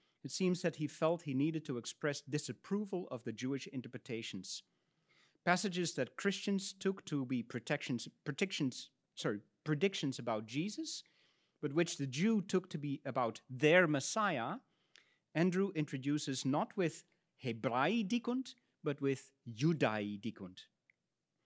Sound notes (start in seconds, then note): 17.5 speaks in Latin